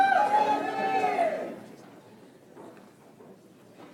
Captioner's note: audience applauds